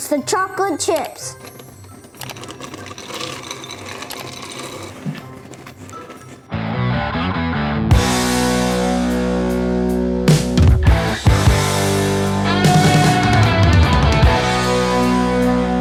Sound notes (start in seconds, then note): 0.6 chips dropping; 7.0 upbeat rock music